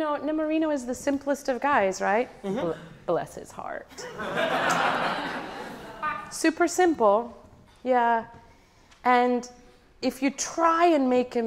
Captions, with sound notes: It's, you know, Nemorino was the simplest of guys, right? Bless his heart. (audience laughing) Super simple and if you try and make him simple